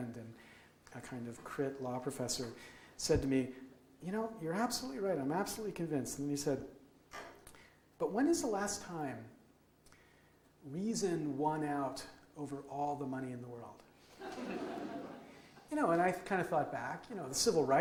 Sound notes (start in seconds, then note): 14.2 audience laughs